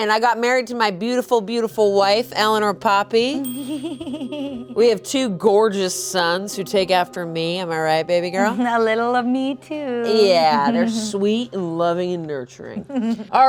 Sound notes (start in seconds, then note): 3.5 giggles